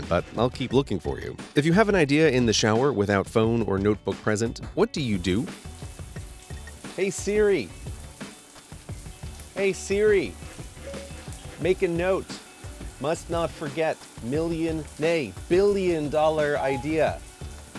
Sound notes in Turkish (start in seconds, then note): 5.4 Duş sesleri; 10.5 Siri sesleri; 16.7 Siri ses çıkartır